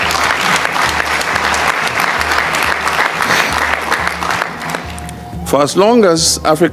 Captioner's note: applause